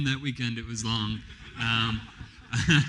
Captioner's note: laughs; laughter